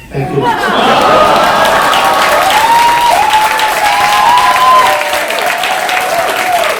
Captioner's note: audience Applause